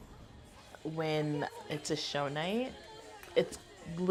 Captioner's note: none